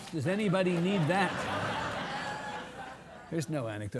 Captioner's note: audience laughing